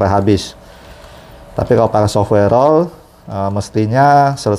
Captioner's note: printer machine noise